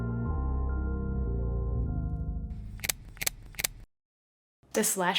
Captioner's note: camera shutter clicking